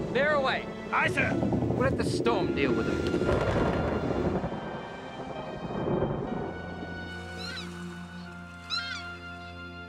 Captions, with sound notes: Veer away! - Aye, sir! - We'll let the store deal with them. (thunder crashing) (gentle music)